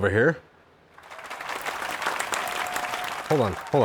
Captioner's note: clapping